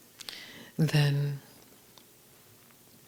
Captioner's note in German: none